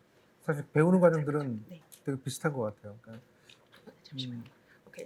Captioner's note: speaking korean